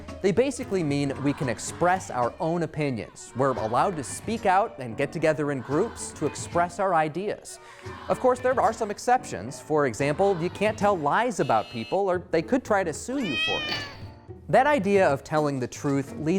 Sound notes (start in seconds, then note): 13.1 cat meows